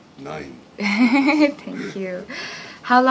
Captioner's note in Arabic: يضحك